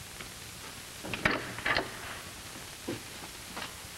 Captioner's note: door opens